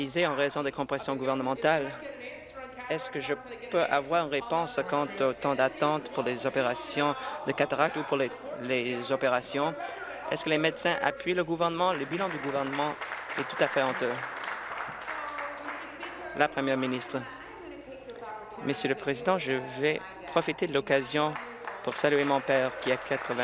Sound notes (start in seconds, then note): 17.5 applause